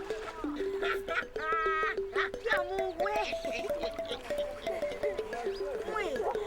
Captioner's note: laughter, indistinct talking